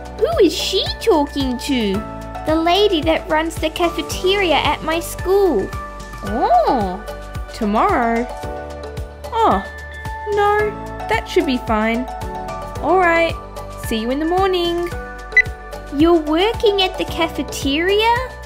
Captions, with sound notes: Who is she talking to? The lady that runs the cafeteria at my school Oh Tomorrow? Oh! No That should be fine Alright, see you in the morning (Beep!) You're working at the cafeteria?